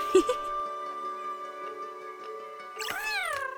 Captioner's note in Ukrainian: сміх